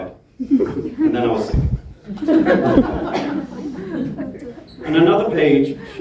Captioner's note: laughing